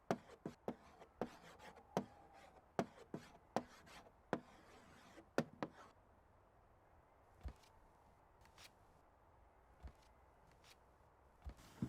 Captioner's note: whisper